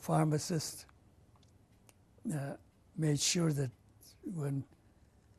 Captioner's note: pauses for 3 seconds; pauses for 3 seconds